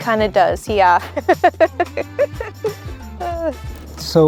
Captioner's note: laughing